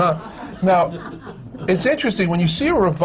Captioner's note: laughter